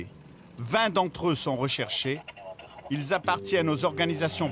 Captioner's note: Hebrew spoken audio